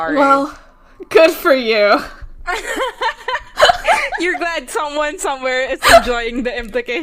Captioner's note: both laughing